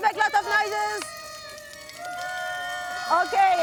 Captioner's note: cheering, noise-makers buzzing